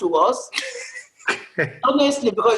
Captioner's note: laughter